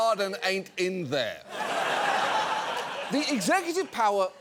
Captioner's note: studio audience laughs